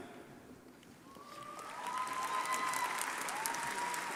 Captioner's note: crowd applauding